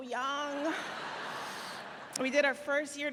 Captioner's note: laughing